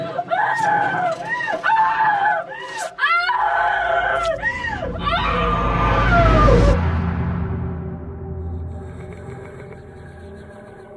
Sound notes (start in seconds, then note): 0.1 screaming Continues